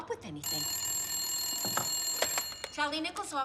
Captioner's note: phone ringing